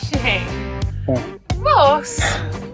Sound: laughs

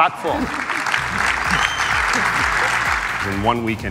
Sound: applause

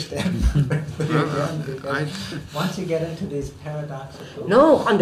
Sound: laughs

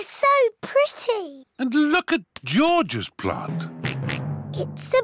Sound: oinks

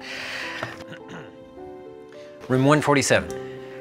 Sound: Jesse clearing throat

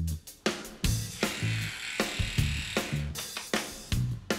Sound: electric razor noise

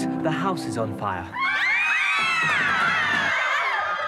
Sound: screaming

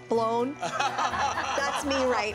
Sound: laughter

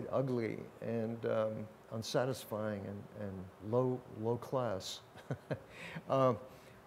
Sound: laughs

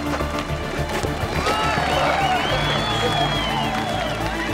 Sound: crowd cheers

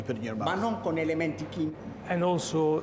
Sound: speaking Italian

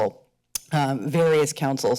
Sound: smacks sounds

